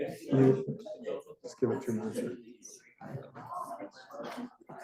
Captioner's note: students chattering